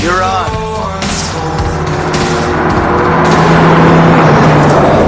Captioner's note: car engines roaring